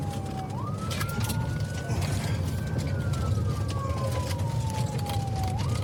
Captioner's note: siren wailing